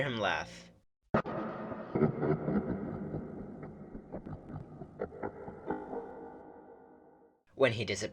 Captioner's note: deep, glitchy laughter